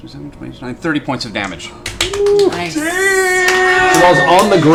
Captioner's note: cheering